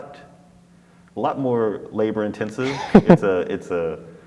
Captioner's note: laughs